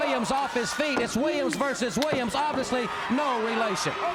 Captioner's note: crowd cheering